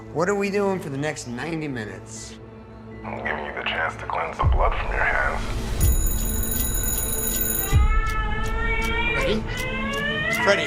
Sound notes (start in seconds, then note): 5.8 phone ringing; 7.7 crying